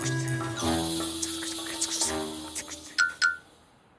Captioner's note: whispering